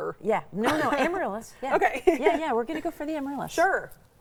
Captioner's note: laughs